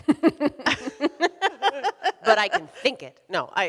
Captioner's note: both laughing; laughs